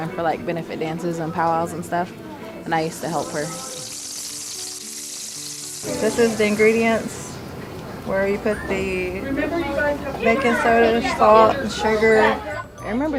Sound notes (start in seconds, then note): 4.3 grease sizzle